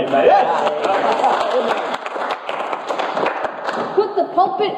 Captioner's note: congregation claps